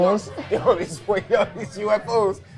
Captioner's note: both laughing